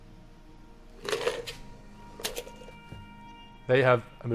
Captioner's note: ice clinks